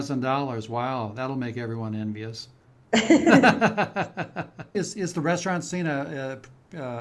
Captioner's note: laughter